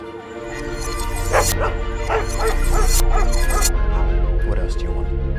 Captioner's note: images zapping; dogs barking